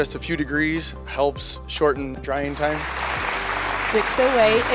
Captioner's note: crowd applauding